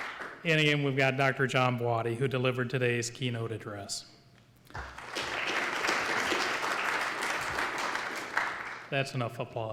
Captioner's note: applause